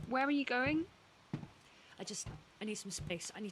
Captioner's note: footsteps continue